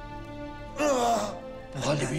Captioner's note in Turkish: İnleme sesi